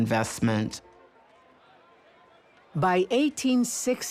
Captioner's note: people chattering